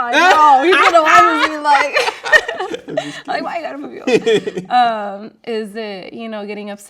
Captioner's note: laughing